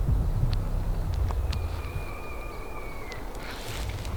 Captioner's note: elk bugling